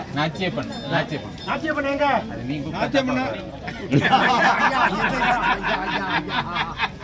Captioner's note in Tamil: சிரிப்பு